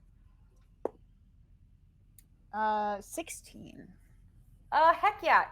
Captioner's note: dice thudding